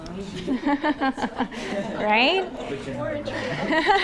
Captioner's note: laughs